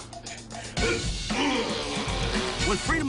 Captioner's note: groaning